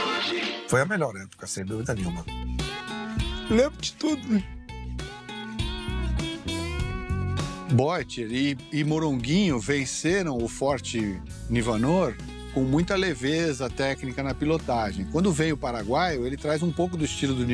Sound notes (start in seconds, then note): 3.2 crying